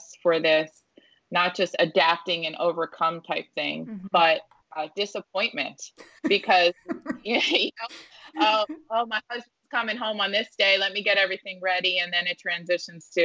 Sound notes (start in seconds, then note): 6.0 laughing